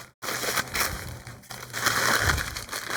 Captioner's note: crinkling